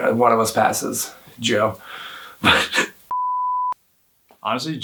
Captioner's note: laughs